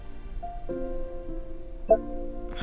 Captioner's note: recorder beeps